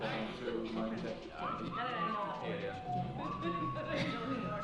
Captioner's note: audience chatters